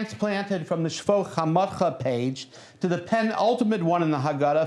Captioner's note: non-english speech